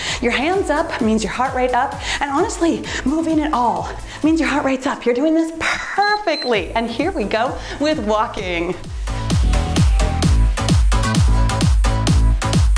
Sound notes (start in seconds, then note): 6.1 timer beeps; 9.9 cheerful music